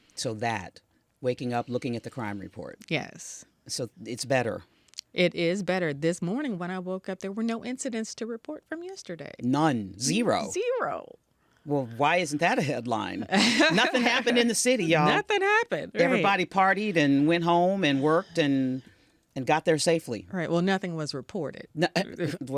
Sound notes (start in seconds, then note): 13.2 Tishaura laughs; 22.1 Tishaura laughing